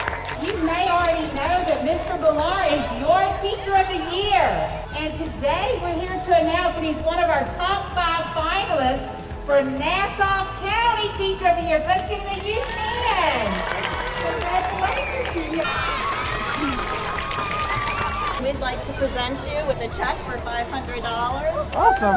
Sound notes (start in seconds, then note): 13.9 children cheering